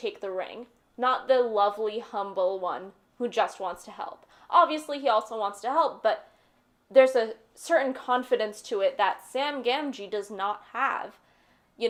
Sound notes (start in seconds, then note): none